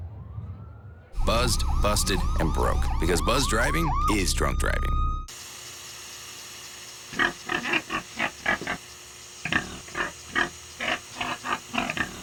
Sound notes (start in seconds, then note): 7.1 pig oinking